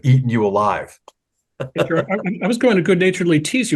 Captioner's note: laugh